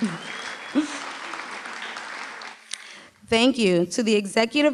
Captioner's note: applause